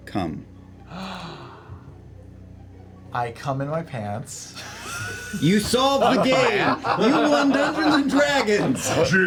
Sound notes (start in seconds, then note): 0.9 gasps